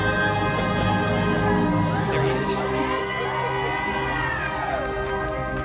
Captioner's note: guests cheering